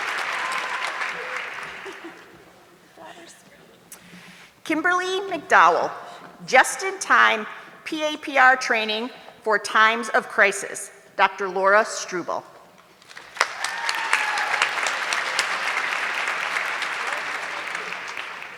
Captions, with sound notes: Kimberly McDowell, just in time PAPR training for times of crisis, Dr. Laura Struble. (audience clapping)